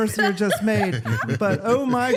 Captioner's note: laughter